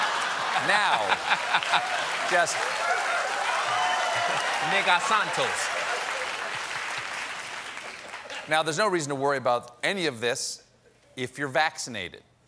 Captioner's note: laughter